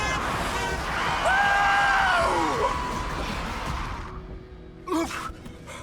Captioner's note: trunk honks; tires squealing; breathing hard